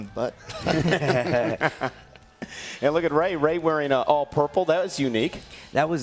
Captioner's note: laugh